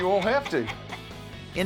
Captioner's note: laughing